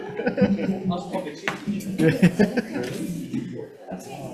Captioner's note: people laughing